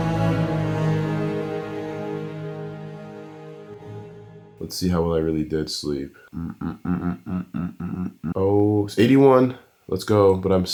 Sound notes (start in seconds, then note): 6.3 humming